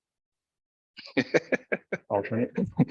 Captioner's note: chuckles